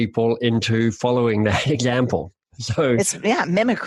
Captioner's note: laughs